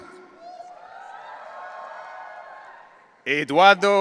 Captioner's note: audience cheering